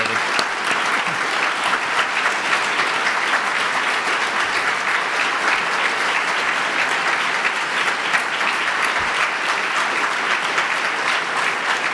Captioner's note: audience applause